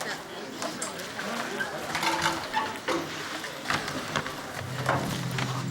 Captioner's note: indistinct student chatter